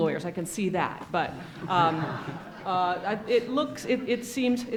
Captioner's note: audience laughs